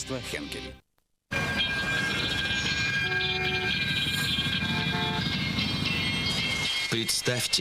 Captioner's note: creaking; car horns honking